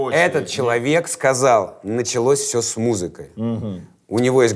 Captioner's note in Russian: недоверчиво